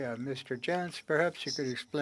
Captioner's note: speaking French